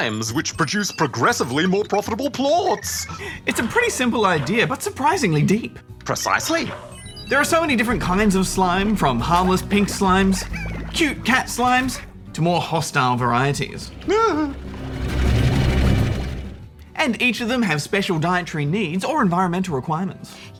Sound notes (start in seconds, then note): 13.8 exclaims